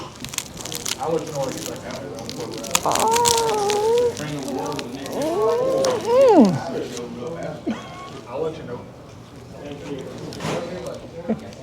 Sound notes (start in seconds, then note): 2.4 groans